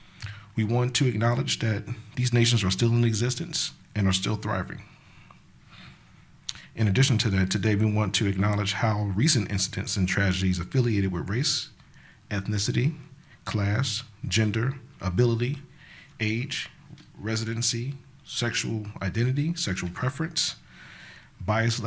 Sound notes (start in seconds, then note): none